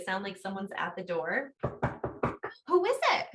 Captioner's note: knocking sound